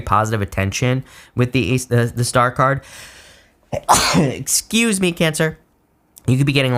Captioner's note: sneezes